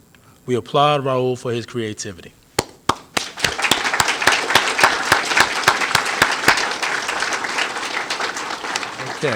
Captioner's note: applause